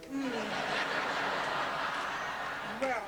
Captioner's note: laughter